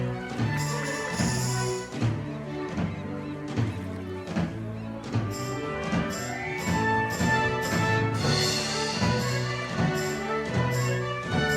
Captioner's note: singing; applause